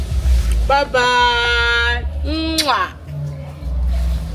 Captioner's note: kisses